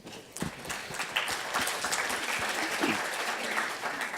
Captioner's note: audience applauds